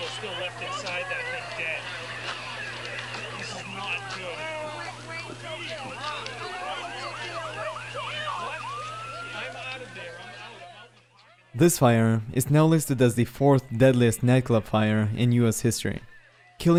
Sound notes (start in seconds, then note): 5.1 alarms wailing; 5.1 people clamoring